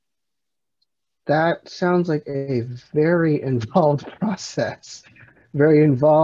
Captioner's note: laughs